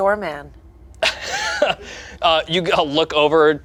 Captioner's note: laughs